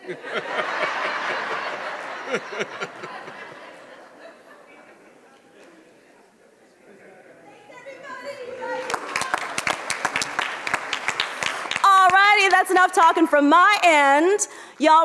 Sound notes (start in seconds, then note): 0.0 audience laughs; 8.6 audience applauds